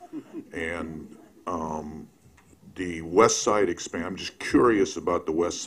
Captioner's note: laughter